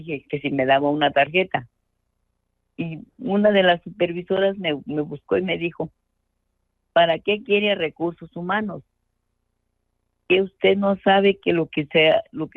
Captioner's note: speaking in Spanish